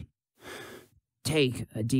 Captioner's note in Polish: wdech